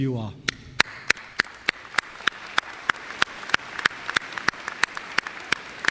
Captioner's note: applause